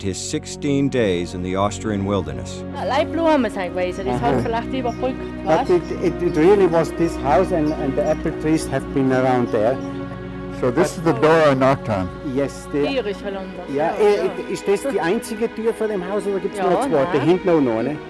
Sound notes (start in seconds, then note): 8.5 chuckles